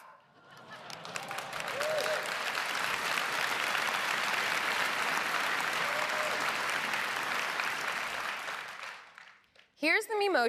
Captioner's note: applause